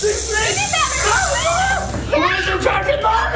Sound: snake rattling; screaming

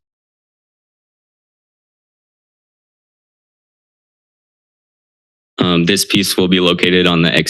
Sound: silence

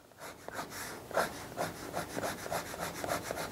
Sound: pencil scrapes

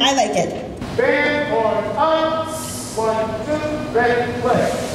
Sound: band hisses

